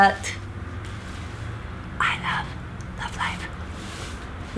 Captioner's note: whisper